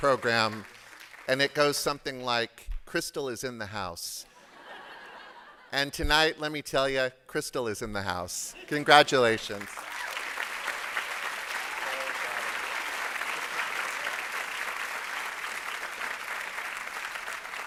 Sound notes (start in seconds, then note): 4.3 laughter; 14.9 applause